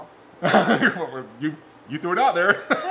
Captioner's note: laughing; laughing